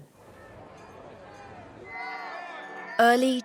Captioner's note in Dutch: publiek praat; klokken luiden